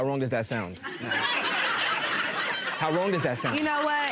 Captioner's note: audience laughing